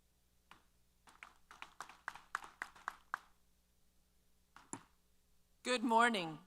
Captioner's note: applause